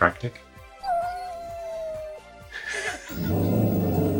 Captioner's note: dog whining; laughing; dog growling